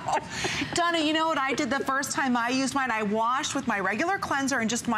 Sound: laughter

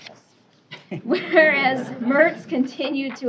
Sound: laughter

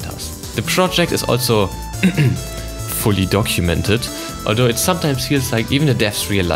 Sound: ahem

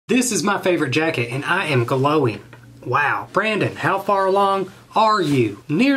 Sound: none

